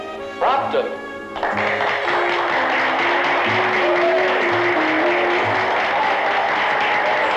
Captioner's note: applause